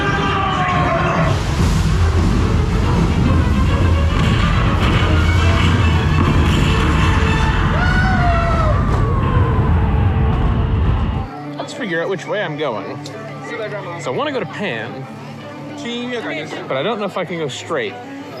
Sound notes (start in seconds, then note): 1.2 water rushing; 4.1 explosions booming